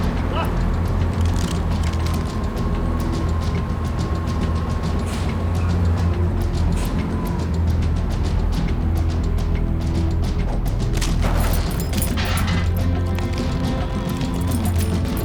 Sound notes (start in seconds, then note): 0.0 suspenseful music; 0.3 henchman speaking in foreign language; 10.5 rope whooshing and creaking